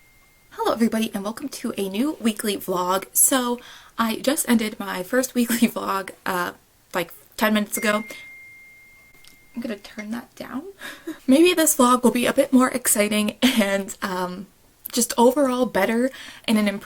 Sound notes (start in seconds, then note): 7.7 phone dings